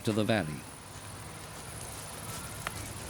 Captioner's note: cicadas